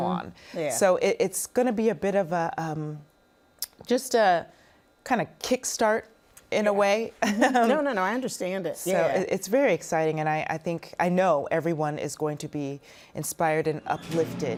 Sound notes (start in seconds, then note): 6.6 laughs